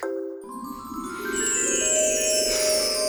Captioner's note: chiming